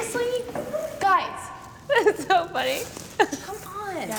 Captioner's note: giggles